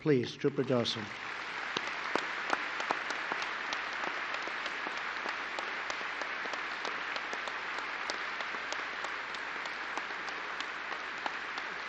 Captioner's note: applause